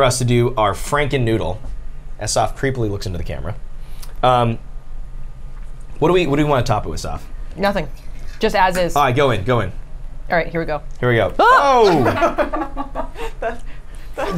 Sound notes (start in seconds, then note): 11.4 screams; 11.5 the group laughs